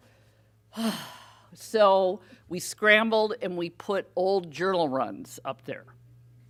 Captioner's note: sighs